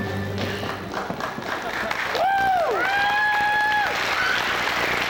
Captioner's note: cheers, applause